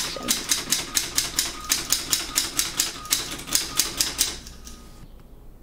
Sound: mechanical tapping sounds as solenoid hits sliders

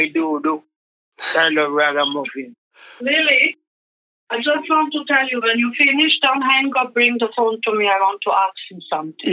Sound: conversation pops up from the background …

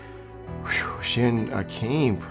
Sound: exhales

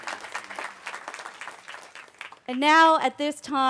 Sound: cheering

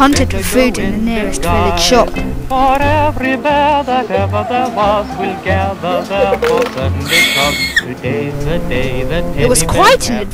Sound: squeal

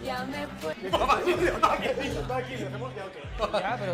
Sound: laughter

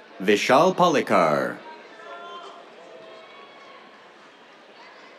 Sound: cheers

